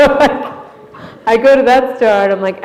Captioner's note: laughter